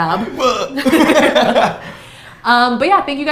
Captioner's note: both laughs